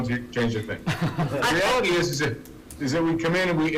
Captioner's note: laughs